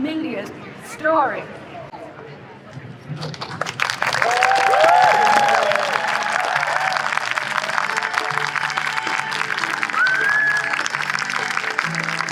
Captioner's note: applause